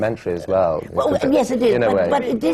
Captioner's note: laughter